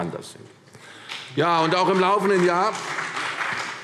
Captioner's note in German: Beifall CDU und BÜNDNIS 90/DIE GRÜNEN